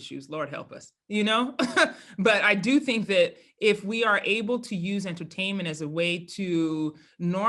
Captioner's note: laugh